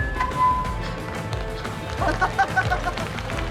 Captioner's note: microphone feedback; speaking Tibetan; laughing